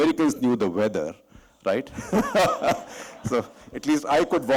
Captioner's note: laughter